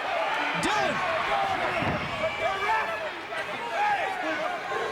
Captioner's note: people chattering